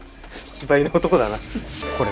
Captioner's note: laughs